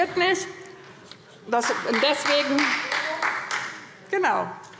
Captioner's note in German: Demonstrativer Beifall Freie Demokraten